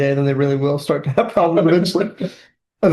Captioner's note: laughter